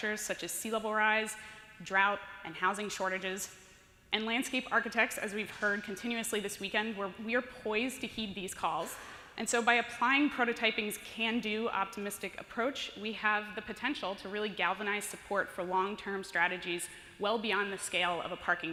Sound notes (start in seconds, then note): none